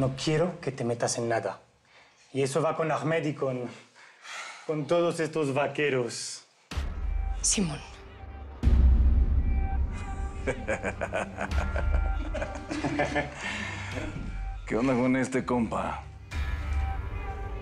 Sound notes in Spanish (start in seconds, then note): 10.4 Risas